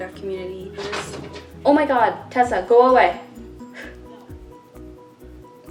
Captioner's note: scratches at the door